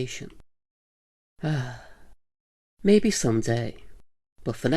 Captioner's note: sigh